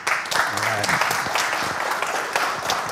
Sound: applause

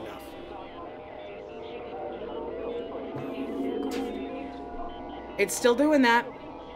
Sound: distorted sounds over the radio

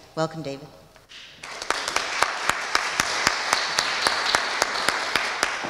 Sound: audience applauding

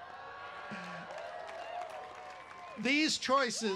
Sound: cheering

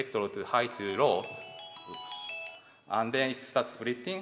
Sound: phone ringing

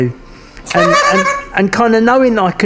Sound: laughing

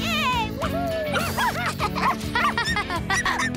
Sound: barking

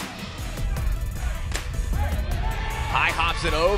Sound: crowd Cheering

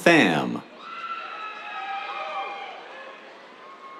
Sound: cheers

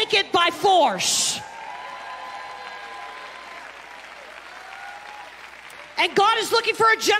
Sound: congregation clapping and cheering

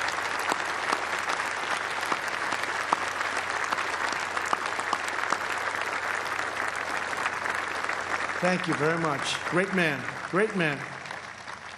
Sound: applause

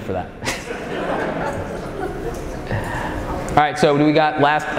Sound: audience laughing

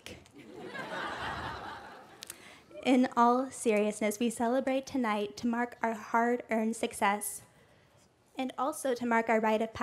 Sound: laughter

